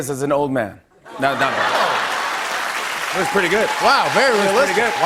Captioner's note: applause